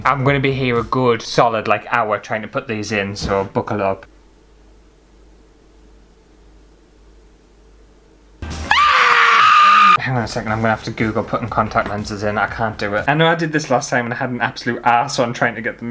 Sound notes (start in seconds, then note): 8.6 screaming!!!